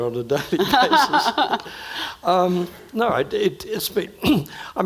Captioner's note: laughing